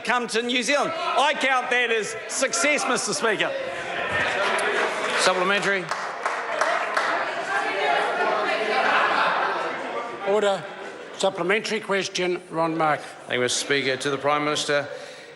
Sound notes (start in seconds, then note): 7.4 members shout